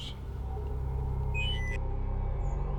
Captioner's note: COMM-LINK beeps